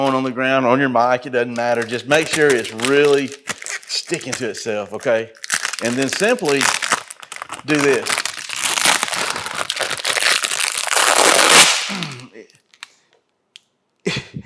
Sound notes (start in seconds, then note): 8.4 plastic screeching